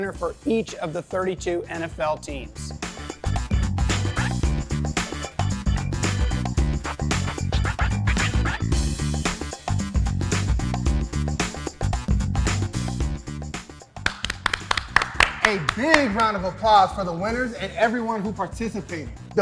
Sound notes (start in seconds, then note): 2.6 upbeat music; 12.5 upbeat music continues; 14.0 applauding